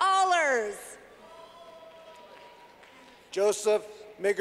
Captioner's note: clapping